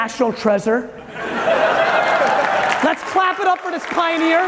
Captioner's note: audience cheering